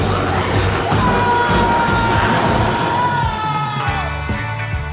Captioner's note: biker screams; energetic guitar music